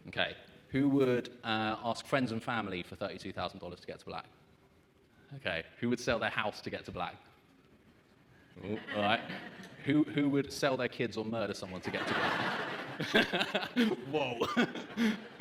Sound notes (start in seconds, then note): 8.6 audience chuckles; 11.8 audience laughs; 11.8 laughs